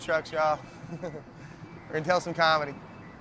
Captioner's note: laughs